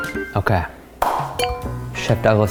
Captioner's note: clap